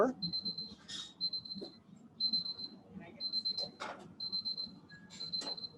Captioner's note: timer alarm beeping